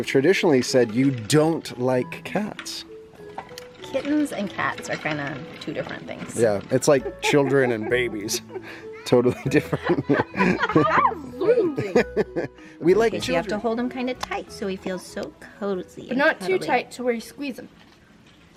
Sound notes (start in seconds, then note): 9.2 laughs; 10.8 chuckles